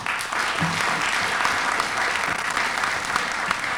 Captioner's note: applause